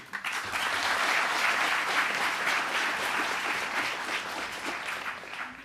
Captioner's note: applause